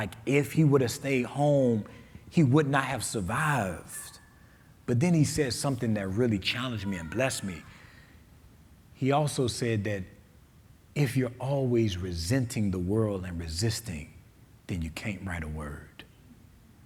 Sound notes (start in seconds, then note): none